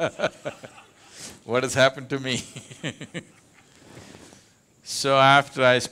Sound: laughs; laughs

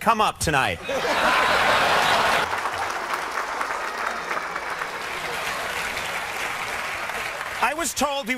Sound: laughter

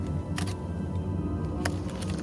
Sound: camera snaps photo

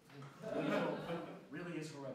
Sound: laughter

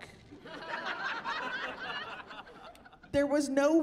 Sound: laughing

